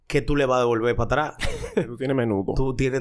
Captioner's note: laughs